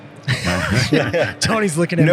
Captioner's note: all laugh